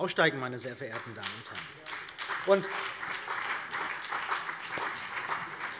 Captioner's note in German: Beifall BÜNDNIS 90/DIE GRÜNEN und vereinzelt CDU